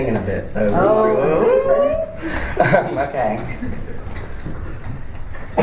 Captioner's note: audience responds with excitement